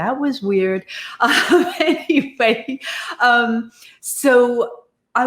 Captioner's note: laughs